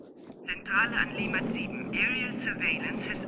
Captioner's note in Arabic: ضابط يتحدث بلغة أجنبية